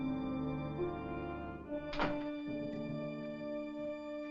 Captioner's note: door Closes